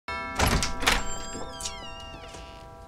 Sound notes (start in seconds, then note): 0.1 doorbell chimes